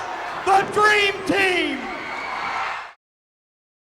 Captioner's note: crowd cheers